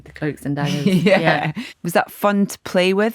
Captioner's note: laughs